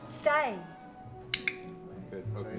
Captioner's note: clicking tongue